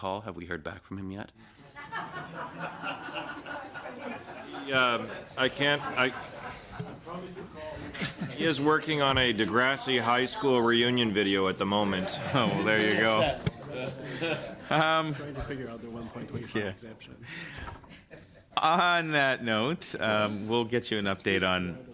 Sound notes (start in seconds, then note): 5.4 laughter